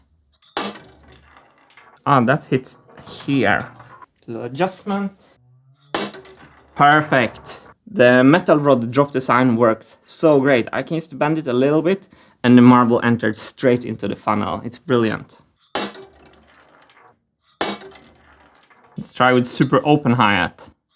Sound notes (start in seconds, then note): 0.6 hi-hat; 5.8 hi-hat; 15.5 marbles drop on hi-hat